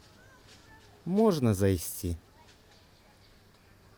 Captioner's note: speaking Belorussian